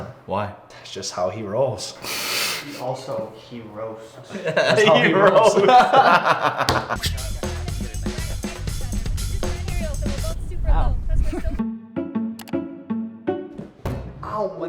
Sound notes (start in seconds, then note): 5.8 laughter; 6.6 hand slams against table; 11.3 background laughter; 12.4 mouse click; 12.7 light string music plays; 13.9 bang